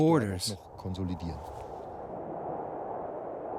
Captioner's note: wind whistling